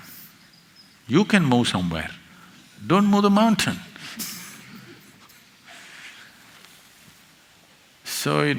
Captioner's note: laughs